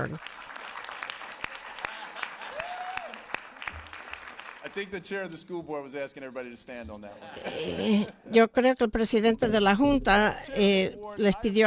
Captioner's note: applause